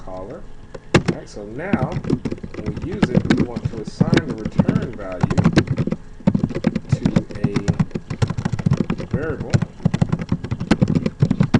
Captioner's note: typing sounds